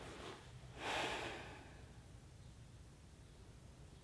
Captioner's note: sigh